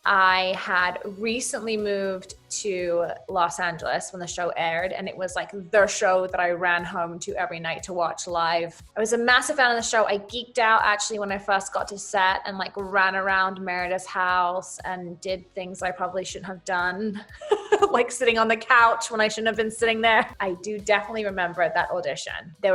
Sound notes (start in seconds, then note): 17.3 laughs